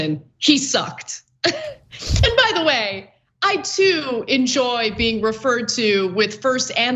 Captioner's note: laugh